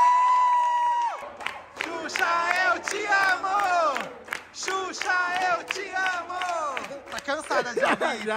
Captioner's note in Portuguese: gritos e aplausos; todos gritam